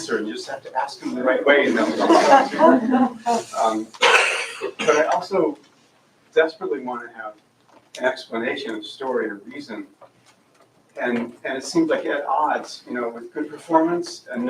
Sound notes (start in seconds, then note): 1.7 laughter